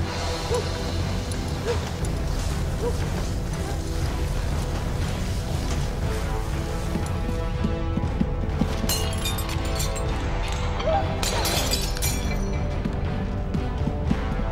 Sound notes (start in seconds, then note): 0.0 dog barking; 0.0 somber orchestral music; 0.3 dramatic orchestral music; 8.9 pottery shattering